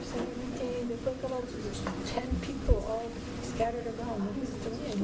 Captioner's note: speaking faintly